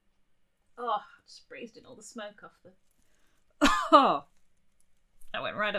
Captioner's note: coughs